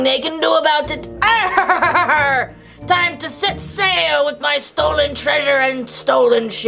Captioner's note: laughs